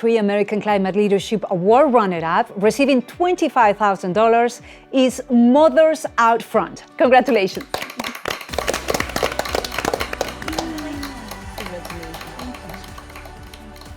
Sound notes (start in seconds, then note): 7.2 all clap hands; 9.1 upbeat music; 10.6 indistinct chatters